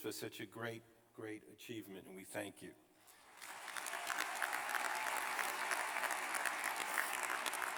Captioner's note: applause